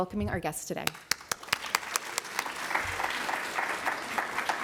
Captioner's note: applause